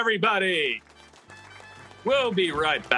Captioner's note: audience clapping